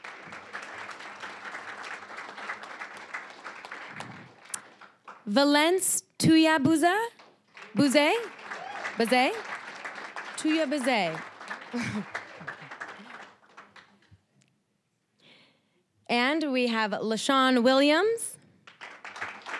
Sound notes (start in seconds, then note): 0.0 applause; 7.0 applause; 11.6 chuckling; 11.7 applause; 18.6 applause